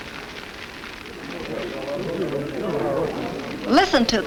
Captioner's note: people chatter